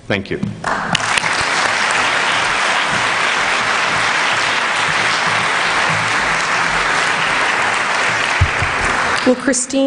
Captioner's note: applause